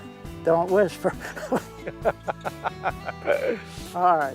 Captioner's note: laughter